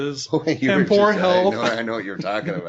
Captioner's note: laughing